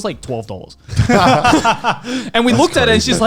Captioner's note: laughing